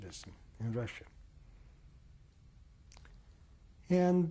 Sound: pauses for 3 seconds

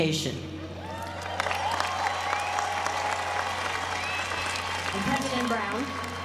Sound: applause

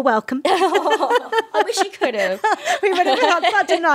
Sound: laughs

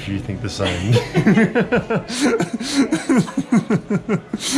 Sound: laughter

